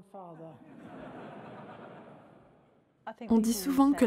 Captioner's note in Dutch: publiek lacht